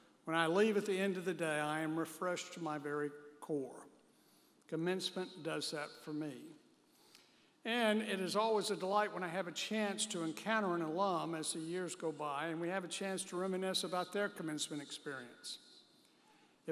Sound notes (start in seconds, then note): none